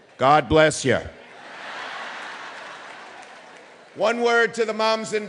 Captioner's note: audience laughing